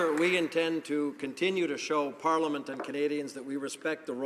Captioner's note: some Applause